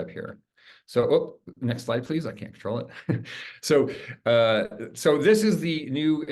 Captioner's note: chuckles